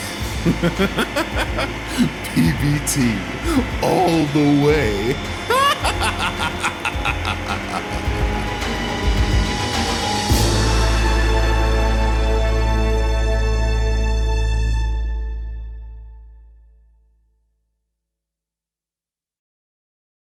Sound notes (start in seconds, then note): 0.4 laughing; 5.4 laughing; 10.0 intense music